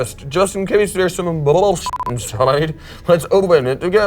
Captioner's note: beep